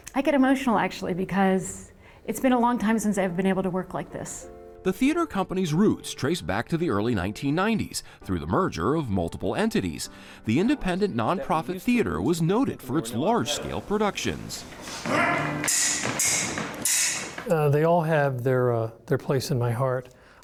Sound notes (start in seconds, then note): 15.0 swords clanging